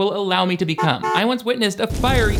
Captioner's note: car horn honks; car explodes